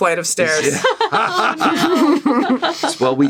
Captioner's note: laughter